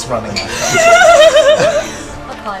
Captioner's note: laughter